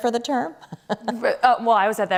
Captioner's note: laughter